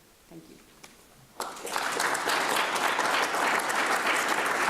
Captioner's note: applause